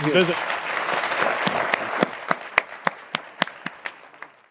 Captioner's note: applause